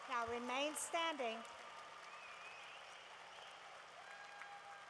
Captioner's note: cheering